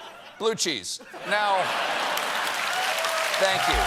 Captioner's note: cheers and applause